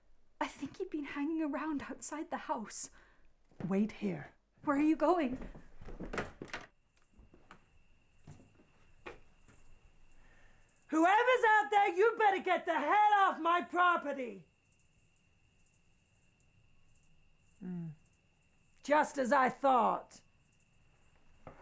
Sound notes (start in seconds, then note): 5.9 door rattling; 7.4 crickets chirping